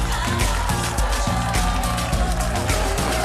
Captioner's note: cheers and applause